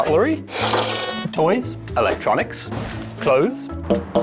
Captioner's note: horn beeps